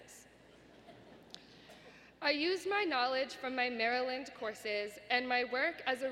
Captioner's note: laughter